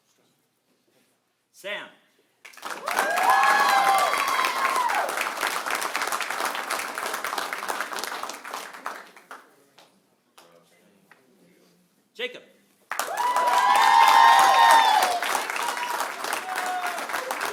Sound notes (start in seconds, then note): 2.4 applause; 2.6 cheering; 12.8 applause; 12.9 cheering